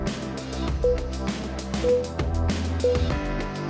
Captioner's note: timer beeping